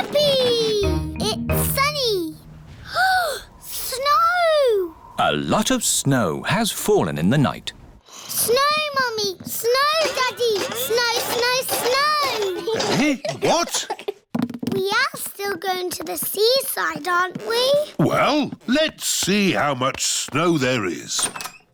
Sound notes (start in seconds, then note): 2.9 gasps